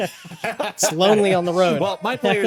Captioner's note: both laughing